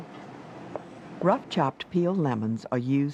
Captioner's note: voiceover